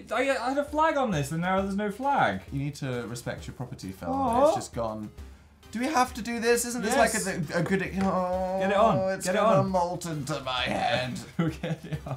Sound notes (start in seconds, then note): 5.1 sad Moan; 8.1 grumbles